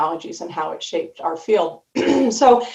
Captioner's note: clears throat